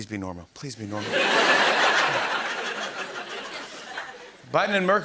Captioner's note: laughter